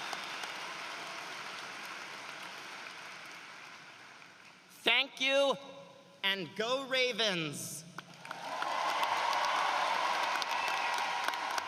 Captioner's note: cheering and applause